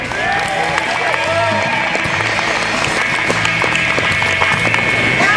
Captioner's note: crowd cheers